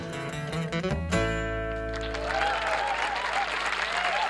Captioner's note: cheering, applause, and whistling